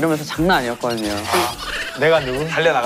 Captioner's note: laughs